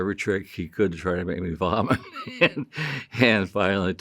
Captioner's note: chuckles